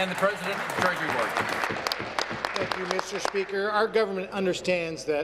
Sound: applause

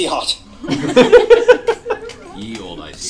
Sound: laughter

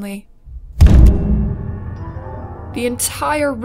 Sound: smash

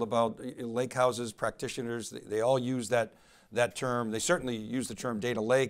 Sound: none

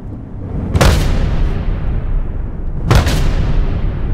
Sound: banging on door

